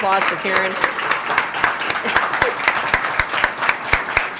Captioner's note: applause